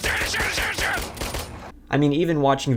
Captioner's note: gun shots